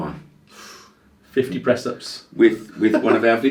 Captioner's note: laughs